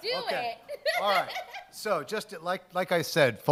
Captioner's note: laughs